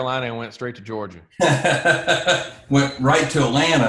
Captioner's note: laughs